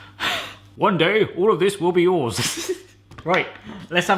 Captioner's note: chuckles